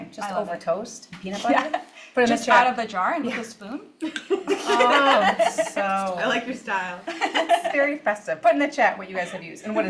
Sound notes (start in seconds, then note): 4.1 laughs